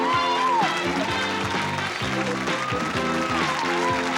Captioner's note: cheering and applause; playful, upbeat music